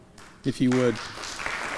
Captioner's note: applause